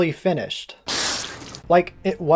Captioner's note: spit take